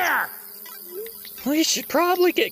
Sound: none

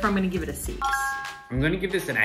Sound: bell chiming

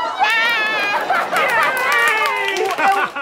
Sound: audience laughter; clapping, cheering

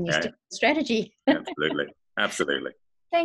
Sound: laughing

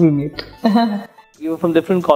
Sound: giggle

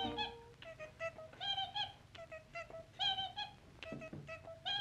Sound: squeaking

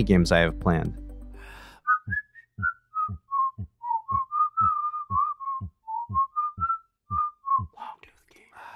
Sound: whistling with logo animation

